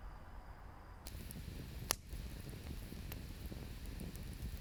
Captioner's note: fire crackling